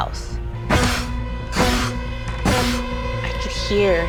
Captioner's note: imitating boot stomps